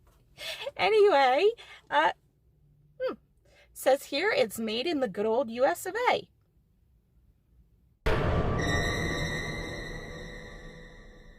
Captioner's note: scary sound effect